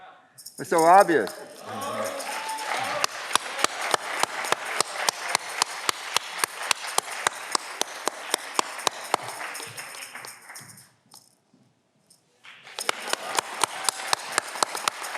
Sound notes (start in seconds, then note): 1.9 audience clapping